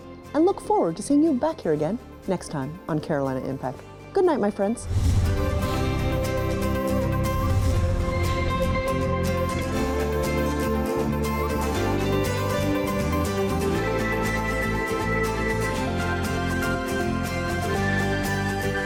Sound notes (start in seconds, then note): 4.8 rapid whooshing; 5.2 upbeat music